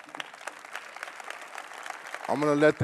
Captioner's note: applause